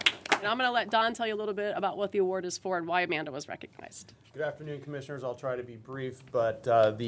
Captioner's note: applause